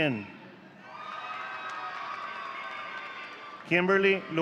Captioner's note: audience cheering